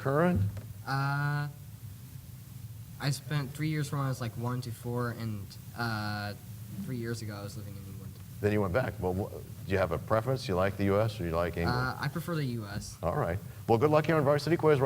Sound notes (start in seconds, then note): none